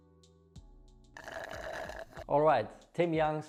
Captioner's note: slurping